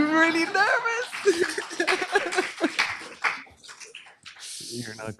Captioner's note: laughter, applause